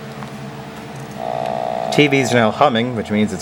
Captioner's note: hum intensifies